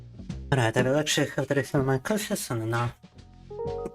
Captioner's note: speaking in Russian